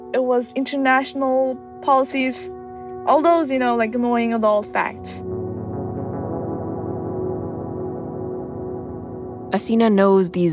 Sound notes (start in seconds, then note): none